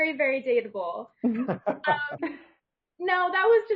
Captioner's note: panel laughing